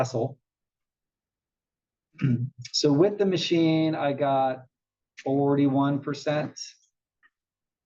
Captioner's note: cough